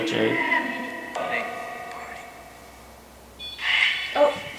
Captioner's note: whispering voice